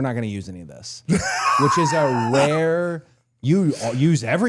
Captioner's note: Dallas laughing